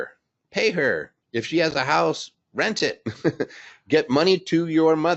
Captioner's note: laughs